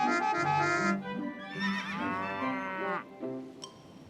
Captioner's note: traffic honking; horse neighs, cow moos